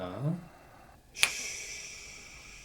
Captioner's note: snap!